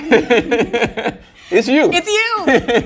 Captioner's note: laughs